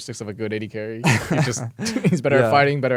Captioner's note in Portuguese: risos